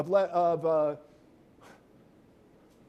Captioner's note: pause